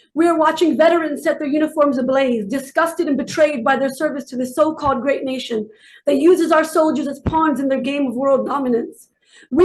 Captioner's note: none